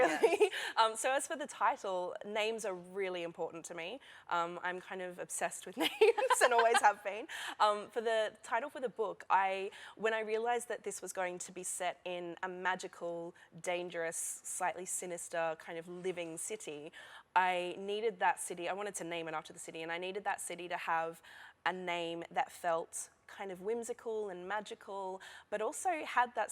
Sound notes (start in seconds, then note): 5.8 laughter